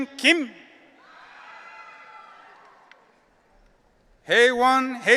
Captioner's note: audience cheering